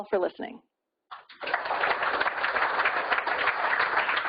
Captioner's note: applause